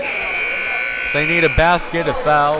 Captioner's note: timer buzzes